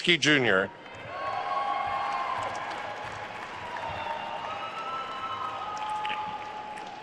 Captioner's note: attendees cheering and applauding